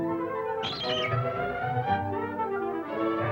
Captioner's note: screeching